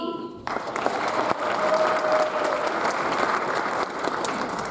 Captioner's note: audience applauds